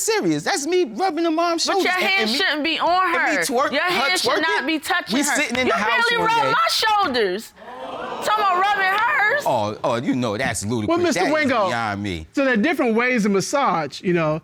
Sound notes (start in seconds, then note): 7.6 audience gasps